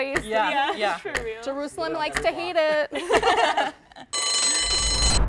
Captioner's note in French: rires